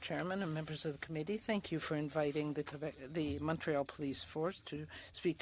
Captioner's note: speaking French